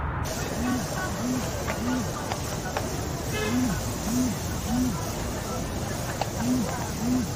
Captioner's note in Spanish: Vibra el celular